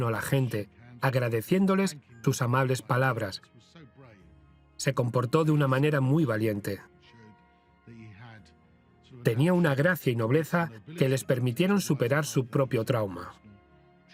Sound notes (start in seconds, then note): 7.2 voiceover